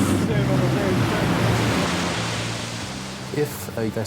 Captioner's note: tense music; waves crashing